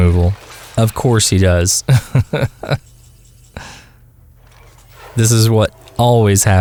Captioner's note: haha